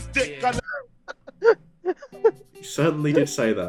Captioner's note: laughter